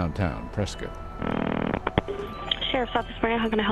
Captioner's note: 911 recording